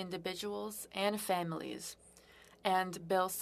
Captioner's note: speaking French